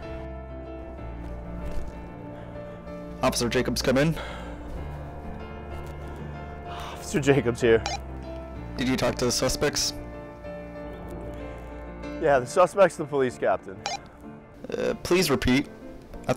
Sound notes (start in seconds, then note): 8.2 radio beeps; 13.8 radio beeps